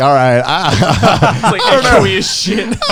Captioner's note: laughing